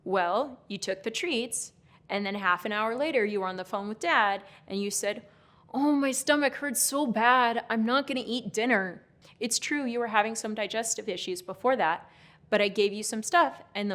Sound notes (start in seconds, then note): none